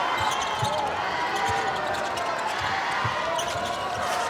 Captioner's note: audience cheers